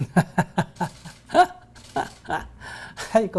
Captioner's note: laughter